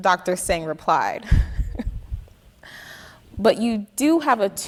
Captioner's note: chuckling